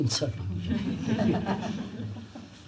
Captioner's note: laughs; laughter